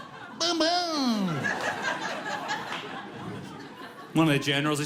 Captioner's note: audience laughs